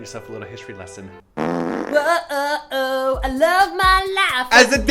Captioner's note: fart sound